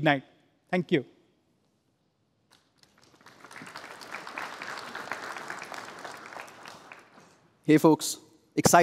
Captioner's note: applause